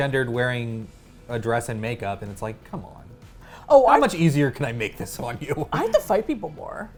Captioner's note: laughing